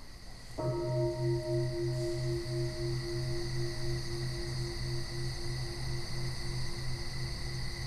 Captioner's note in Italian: suono di campana